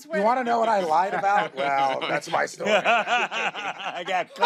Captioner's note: laughter